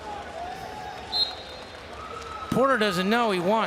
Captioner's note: whistle blows